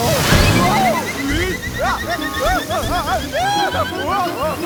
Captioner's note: screaming